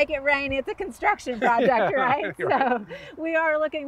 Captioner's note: both laughing